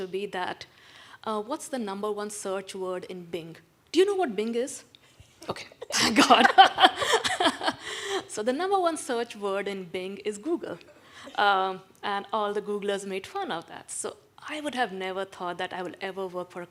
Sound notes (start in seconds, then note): 6.0 panelists laughing; 11.0 attendees laughing